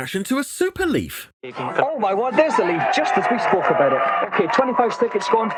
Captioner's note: audience cheering